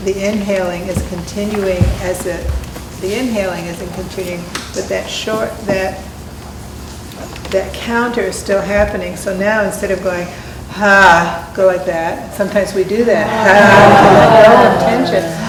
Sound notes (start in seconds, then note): 10.7 sounding on exhale